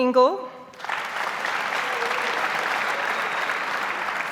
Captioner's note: audience applauds